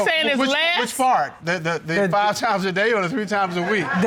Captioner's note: chuckles